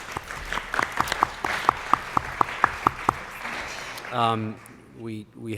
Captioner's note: applause